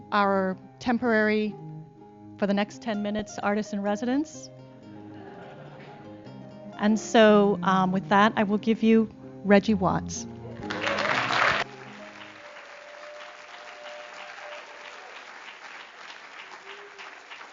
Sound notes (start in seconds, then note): 4.9 laughter; 10.6 applause